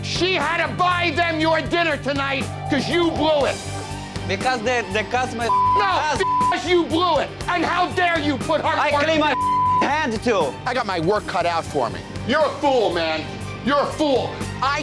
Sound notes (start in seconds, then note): 5.4 beep; 9.3 beep